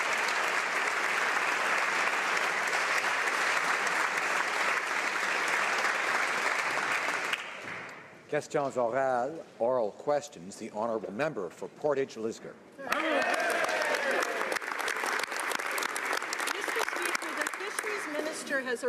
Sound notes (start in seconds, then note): 0.0 some Applause; 4.9 speaking French